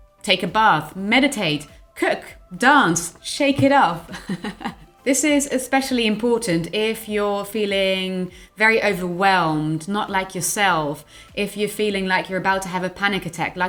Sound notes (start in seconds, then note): 4.1 laughing